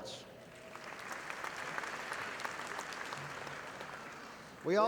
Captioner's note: audience applauding